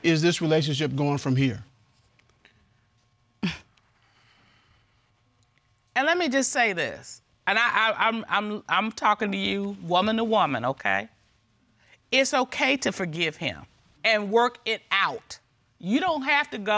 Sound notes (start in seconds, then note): 3.4 chuckles